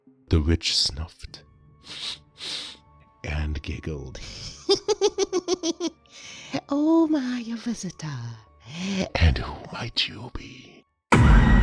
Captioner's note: sniff siff